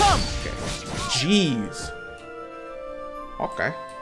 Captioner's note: swords slash